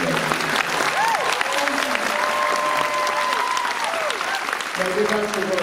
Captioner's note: applause